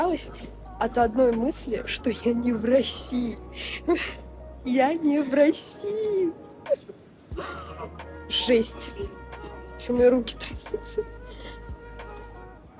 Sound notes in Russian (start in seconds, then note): 3.6 вздох; 7.4 истерический смех; 12.0 вздох